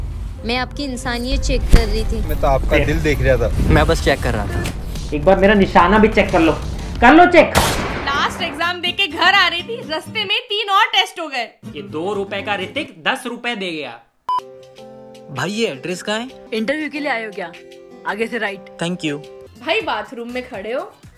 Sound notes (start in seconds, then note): 7.5 boom